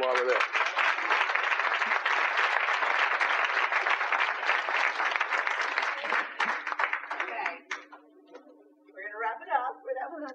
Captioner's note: applause